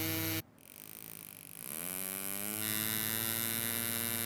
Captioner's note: whirring of varying intensity